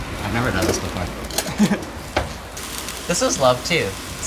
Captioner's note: chuckles